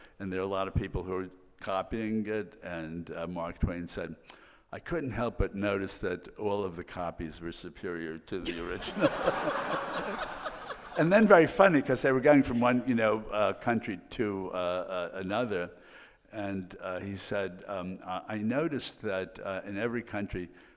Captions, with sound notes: and there are a lot of people who are copying it, and Mark Twain said, "I couldn't help but notice "that all of the copies were superior to the original." (all laughing) And then, very funny, 'cause they were going from one, you know, country to another, and he said, "I noticed that in every country